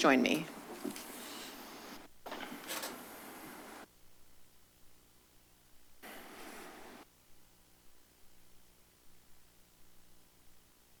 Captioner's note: silence